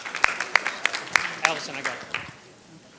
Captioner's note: audience clapping